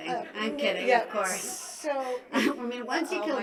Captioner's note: laughing